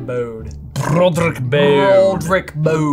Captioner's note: does fancy voice, rolls rs